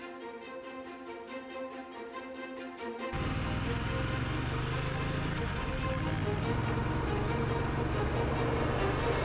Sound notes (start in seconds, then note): 3.1 motorbike roaring